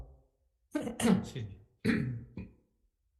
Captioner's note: clears throat